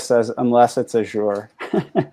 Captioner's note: laughs